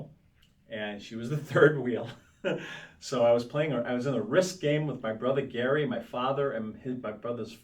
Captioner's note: laughs